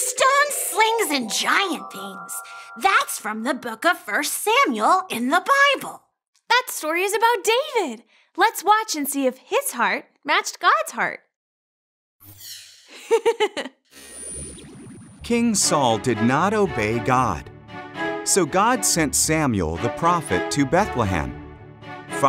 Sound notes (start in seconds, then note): 12.9 giggles